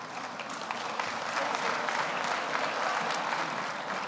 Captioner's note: audience applauds